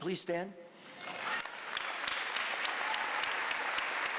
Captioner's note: applause